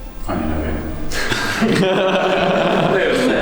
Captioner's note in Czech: Smích